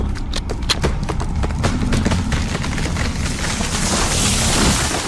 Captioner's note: steps approaching